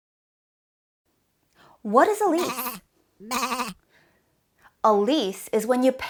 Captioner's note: sheep sound